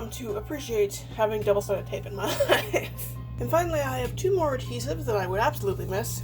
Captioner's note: laughs